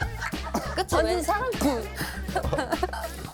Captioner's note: cough